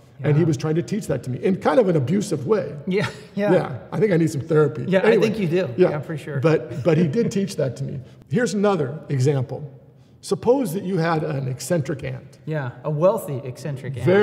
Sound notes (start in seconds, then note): 6.6 laughs